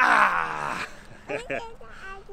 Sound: child babbles

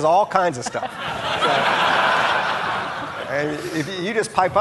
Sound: audience laughing

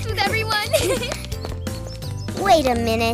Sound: giggles

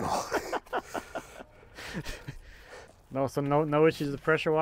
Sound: laughs

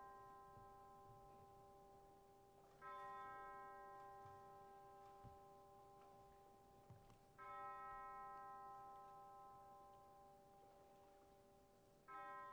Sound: bells tolling

